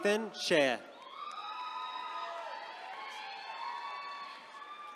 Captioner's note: attendees cheering